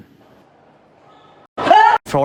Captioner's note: screaming